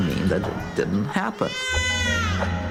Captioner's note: baby crying